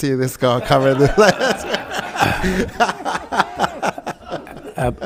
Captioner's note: committee members laughing